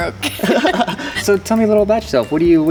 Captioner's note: laughing